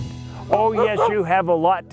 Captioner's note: barking